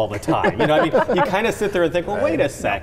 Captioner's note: laughs